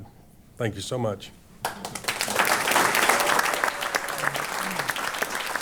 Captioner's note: applause